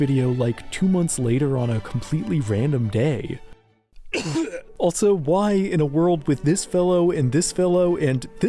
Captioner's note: coughs